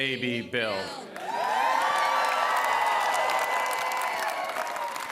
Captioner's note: cheering